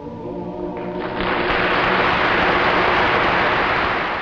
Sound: applause

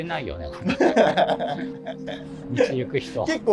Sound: laughing

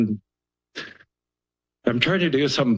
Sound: pause

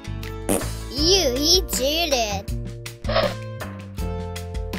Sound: fart sound

